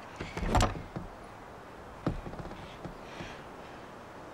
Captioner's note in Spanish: pestillo de la puerta retumbando